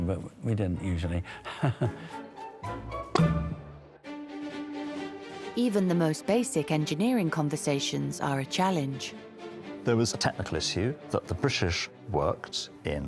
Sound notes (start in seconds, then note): 1.3 laughing; 1.8 upbeat music; 3.1 cork popping